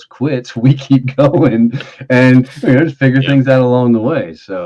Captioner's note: chuckling